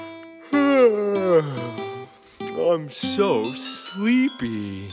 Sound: yawns

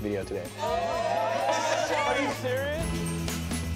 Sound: cheering

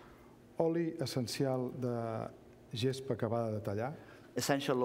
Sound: speaking catalan

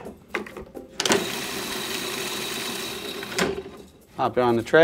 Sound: processor whirring

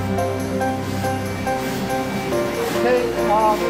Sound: machine whirring

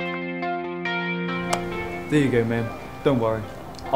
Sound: slop

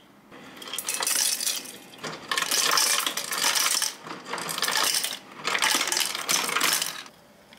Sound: old people favorite ice sound

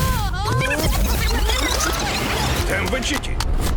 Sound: explosion; audio rewinding

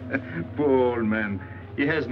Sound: laughing

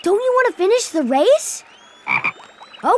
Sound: croaking

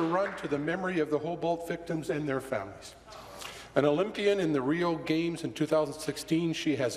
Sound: applause

